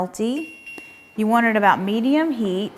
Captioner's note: electric stovetop dings